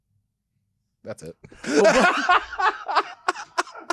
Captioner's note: laughing